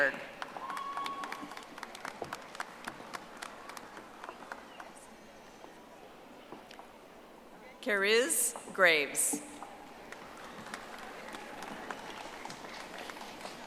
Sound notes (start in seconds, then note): 3.9 audience applauding